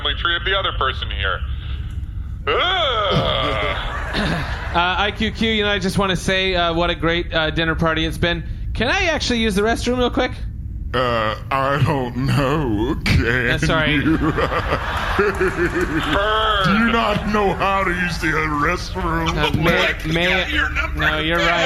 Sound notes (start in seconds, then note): 13.8 laughing; 15.2 shouting; 19.3 chuckling